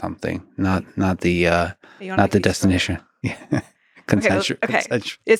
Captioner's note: laughing